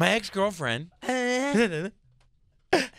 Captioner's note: groans; laughs